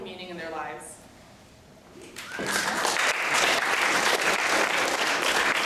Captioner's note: applause